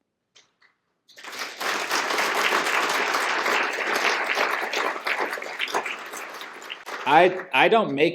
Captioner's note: applause